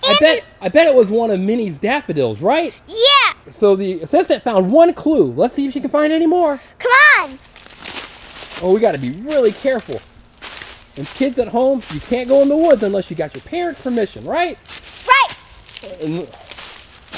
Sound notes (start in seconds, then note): 4.0 voiceover; 9.1 voiceover